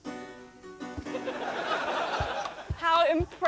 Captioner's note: laughter